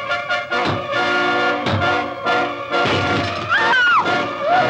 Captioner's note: rock bangs against window. glass shatters